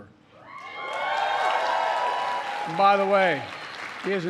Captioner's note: applause